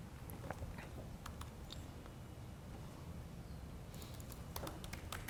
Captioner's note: keyboard clicking